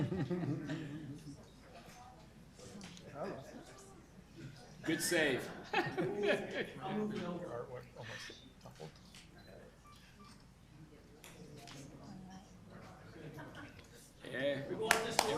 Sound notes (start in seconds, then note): 0.0 laughter; 2.7 group chatter; 5.4 laughter; 12.6 group chatter